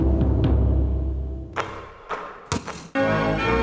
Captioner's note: mysterious upbeat music; net whooshing; epic music